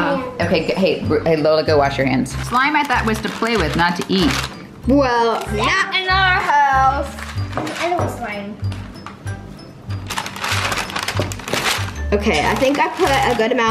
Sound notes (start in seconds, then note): 2.2 parchment paper crackling; 10.0 parchment paper crackling; 10.1 relaxing instrumental music